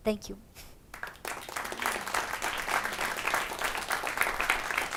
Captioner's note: audience claps